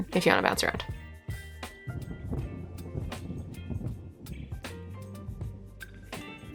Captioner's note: music and thunder